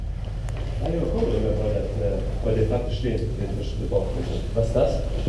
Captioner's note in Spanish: hablando en luxemburgués